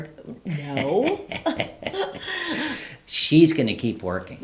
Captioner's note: both laugh